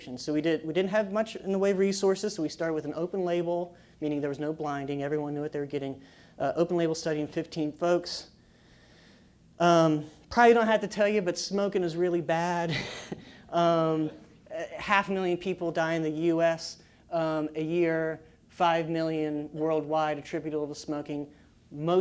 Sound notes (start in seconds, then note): 12.7 laugh